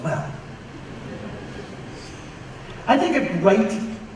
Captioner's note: audience laughs